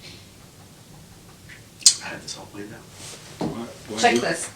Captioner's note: whispering